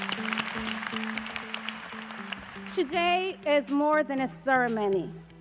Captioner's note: applause